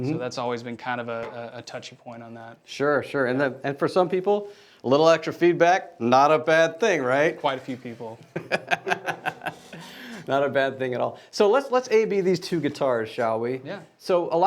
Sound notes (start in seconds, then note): 8.3 laughing